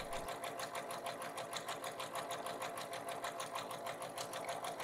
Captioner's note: sewing machine humming